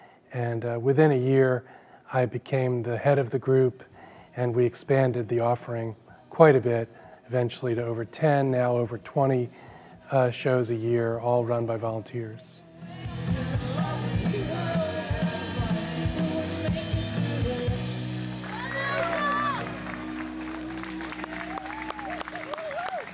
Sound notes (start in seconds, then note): 13.3 upbeat music; 18.4 audience clamoring, clapping